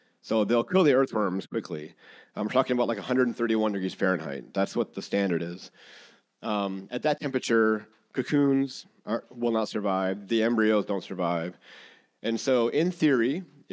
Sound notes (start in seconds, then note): none